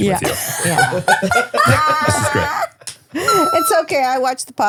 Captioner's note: laughing